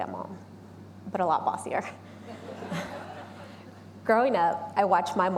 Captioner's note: audience laughing